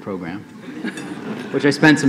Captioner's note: laughing